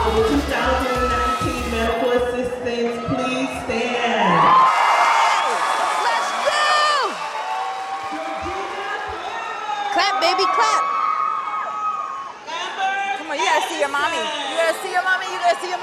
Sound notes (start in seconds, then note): 4.6 crowd cheering; 11.1 audience cheering